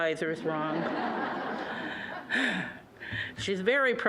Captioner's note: audience laughing